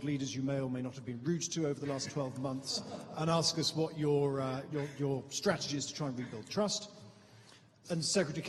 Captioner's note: laughter